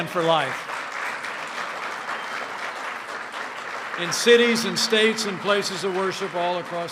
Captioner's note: applause